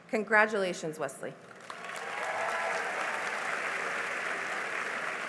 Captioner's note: cheering and applause